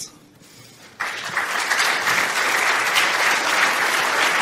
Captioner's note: applause